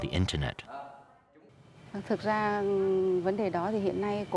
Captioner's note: speaking Vietnamese